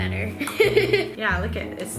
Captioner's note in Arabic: يضحك